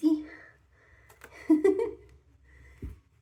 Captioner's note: giggling